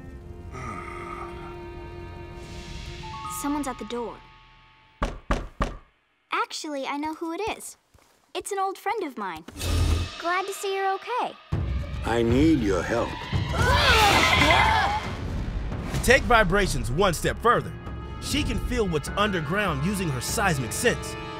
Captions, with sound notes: [groaning] Someone's at the door. [knocking] Actually, I know who it is. It's an old friend of mine. Glad to see you're okay. I need your help. [shrieking] To take vibrations one step further, she can feel what's underground using her seismic sense.